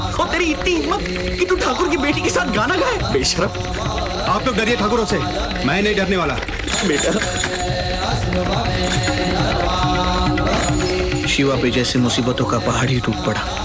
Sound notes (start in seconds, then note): 6.6 Knock on door